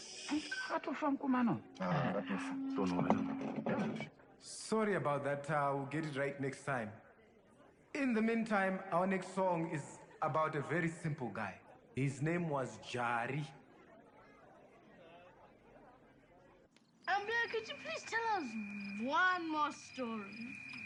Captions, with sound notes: So that guy died? Ya, he's dead, cold dead! [live speaker noise] Sorry about that, ah, will get it right next time. In the mean time, our next song is about a very simple guy. His name was Jari. Ambuya could you please tell us, one more story.